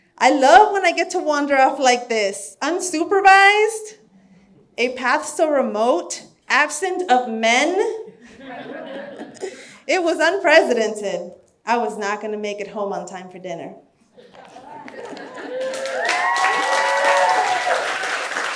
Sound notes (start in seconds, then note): 8.2 audience laughs; 14.9 audience cheers and applauds